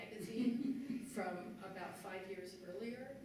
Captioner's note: laughter